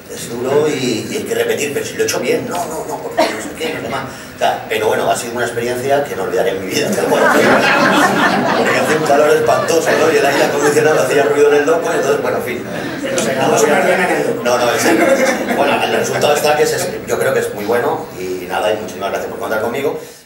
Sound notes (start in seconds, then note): 8.2 laughs